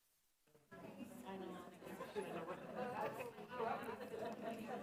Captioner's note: classroom chatters